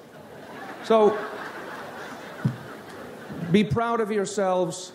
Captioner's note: audience laughs